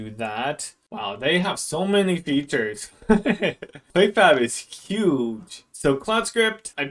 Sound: laughs

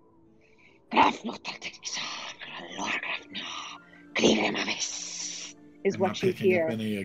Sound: Talron speaking in foreign language

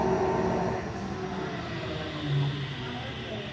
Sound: gears slowing down

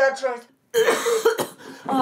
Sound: coughing

